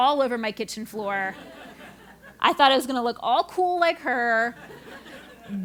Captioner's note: laugh